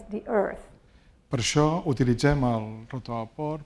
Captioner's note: speaking spanish